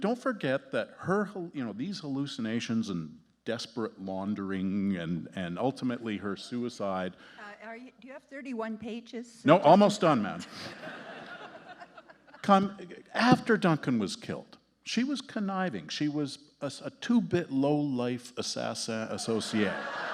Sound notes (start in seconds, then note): 9.5 justices laughing; 19.1 audience laughing